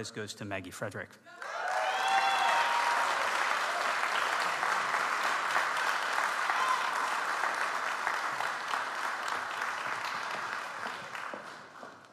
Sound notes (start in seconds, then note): 1.7 audience applauds